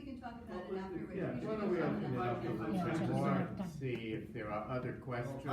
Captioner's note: audience commenting